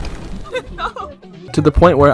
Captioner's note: laughing